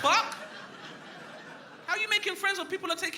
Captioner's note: crowd laughing